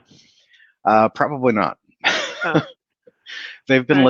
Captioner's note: laughs